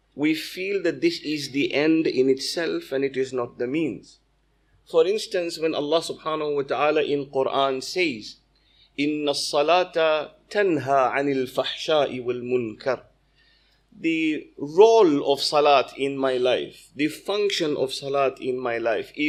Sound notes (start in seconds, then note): 8.9 arabic - 29:45